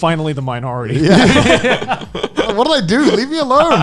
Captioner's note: laughing